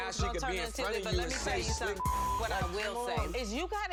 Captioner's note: beep